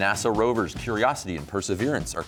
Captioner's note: none